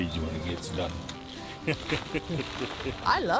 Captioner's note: chuckling